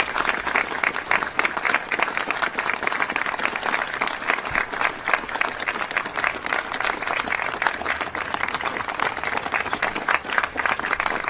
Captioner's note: applause